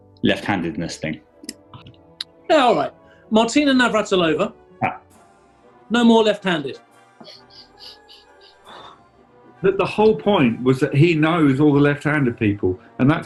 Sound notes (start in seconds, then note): 7.2 sniggering; 8.2 sighs